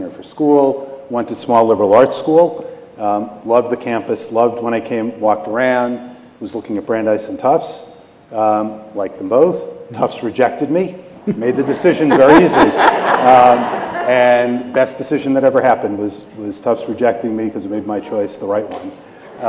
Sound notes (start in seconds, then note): 11.2 laughter